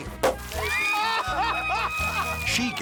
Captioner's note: champagne splashing; cork pops; onlookers cheering and laughing